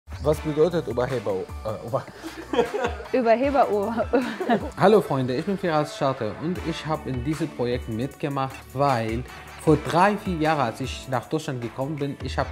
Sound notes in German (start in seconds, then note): 2.0 verspricht sich und lacht; 2.1 imitiert ihn und lacht